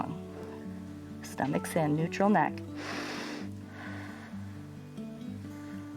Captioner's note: inhales and exhales